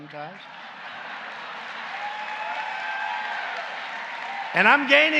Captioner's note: laughter and applause